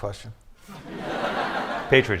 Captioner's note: laughter